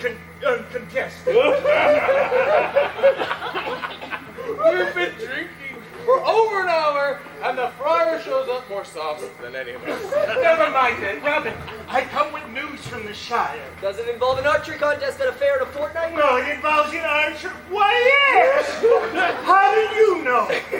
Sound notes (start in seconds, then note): 1.2 laughing